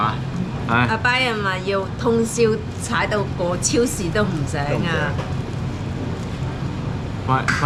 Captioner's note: recycling truck